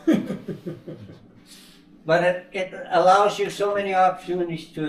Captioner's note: laughing